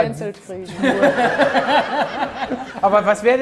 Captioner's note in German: Lachen